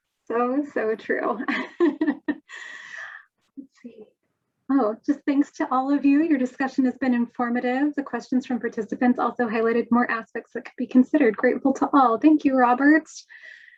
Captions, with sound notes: - So, so true. (laughs) Let's see. Oh, "Just thanks to all of you, your discussion has been informative. The questions from participants also highlighted more aspects that could be considered. Grateful to all". Thank you, Robert.